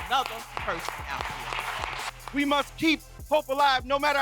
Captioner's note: applause